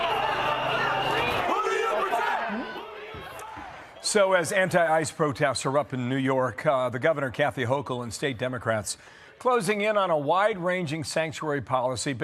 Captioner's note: shouting